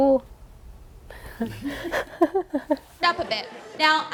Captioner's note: chuckles